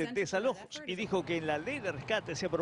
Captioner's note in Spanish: habla en ingés